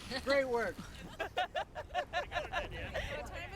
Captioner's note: laughter